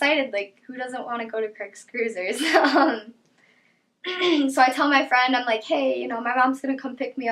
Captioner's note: laughs